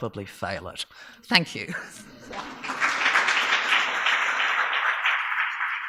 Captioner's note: audience clapping